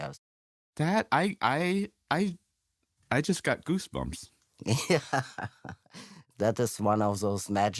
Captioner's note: laughs